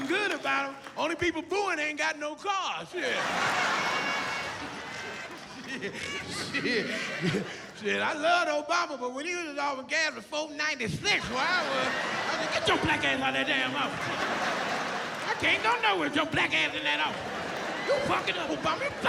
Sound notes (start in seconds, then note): 0.0 cheering; 5.6 laughs